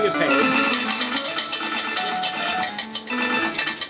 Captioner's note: coins falling; gentle music